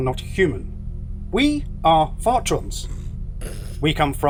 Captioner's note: knight and phillips laugh